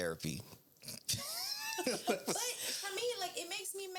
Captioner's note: laughing